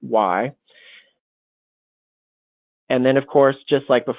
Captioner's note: silence